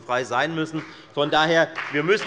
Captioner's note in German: Beifall bei der FDP